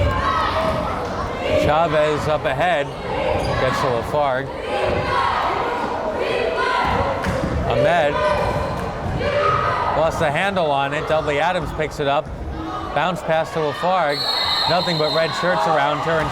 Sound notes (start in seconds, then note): 5.1 crowd chanting defense